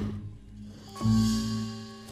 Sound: rhino snorts

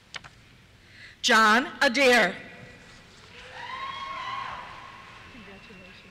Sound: cheers

